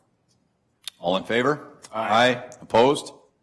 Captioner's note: multiple voices